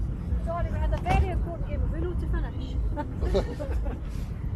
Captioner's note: laugh